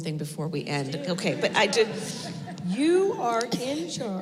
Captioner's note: laughter